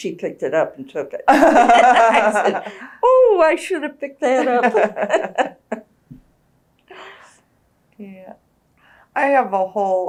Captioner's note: laughter